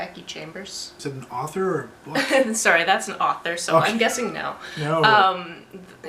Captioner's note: laugter